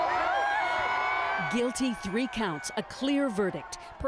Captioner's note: cheers and applause